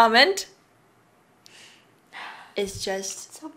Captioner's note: sighs dramatically